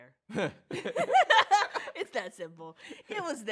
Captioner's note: both laugh